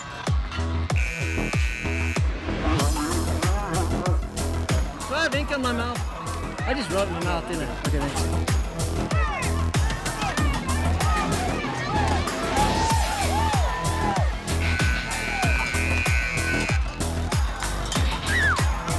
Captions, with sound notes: (buzzer buzzing) (bull bellowing) Do I have ink on my mouth? I just wrote on my mouth, didn't I? Okay, thanks. (upbeat music) (buzzer buzzing)